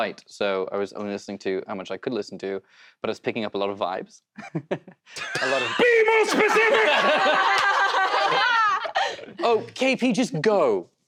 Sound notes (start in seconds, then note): 4.3 giggles; 6.4 laughter